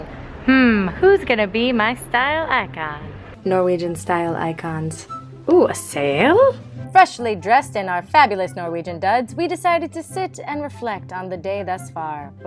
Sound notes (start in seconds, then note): 3.3 voiceover